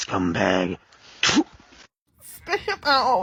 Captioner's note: powerful suctiony THWOOP